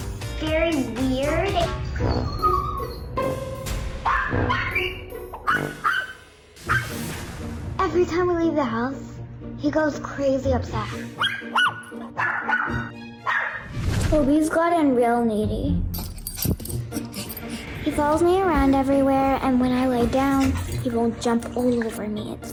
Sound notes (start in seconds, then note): 2.0 tense sound; 5.3 dog barking; 11.2 dog barking; 15.9 dog panting